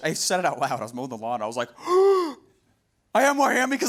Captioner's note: gasps